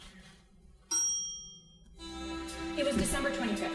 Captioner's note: elevator dings